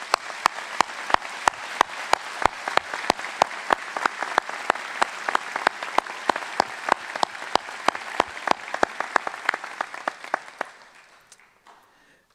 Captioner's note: applause